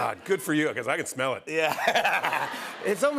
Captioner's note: laughter